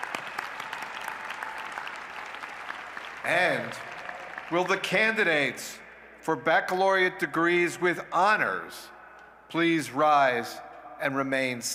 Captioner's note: cheers and applause